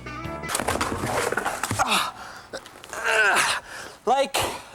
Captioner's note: sighing and grunting